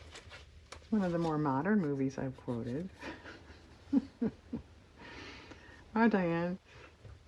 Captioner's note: laughs